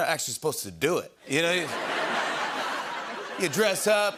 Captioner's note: laughter